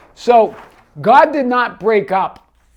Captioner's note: paper crinkling